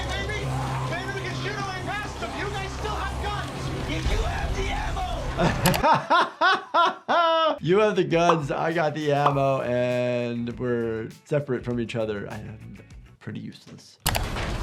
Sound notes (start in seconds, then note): 5.2 laughs